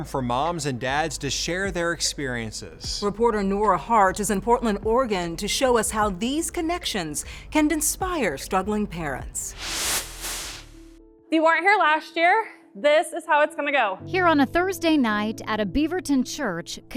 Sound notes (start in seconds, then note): 9.4 swooshing